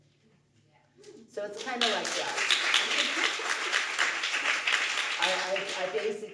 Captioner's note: crowd applause